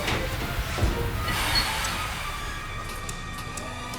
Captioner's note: lever clanks; hissing; machinery whirring